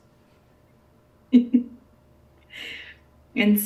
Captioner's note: laughing